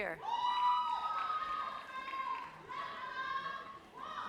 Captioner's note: audience cheers